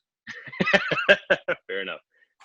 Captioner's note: laughs